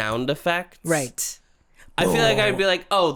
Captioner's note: angry noises